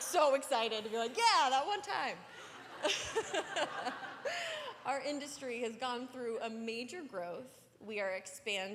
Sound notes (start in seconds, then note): 2.3 laughter